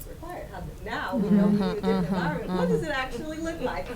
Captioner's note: voice muffled